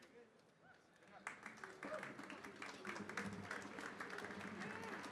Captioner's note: audience applauding